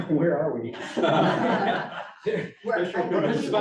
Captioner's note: laughter